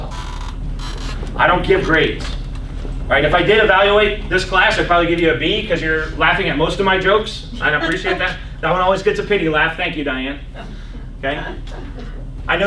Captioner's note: laughs